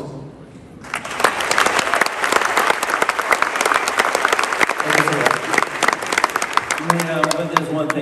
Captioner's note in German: Menge jubelt